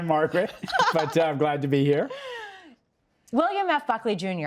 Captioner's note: laughs